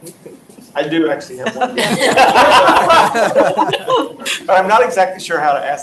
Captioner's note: audience laughs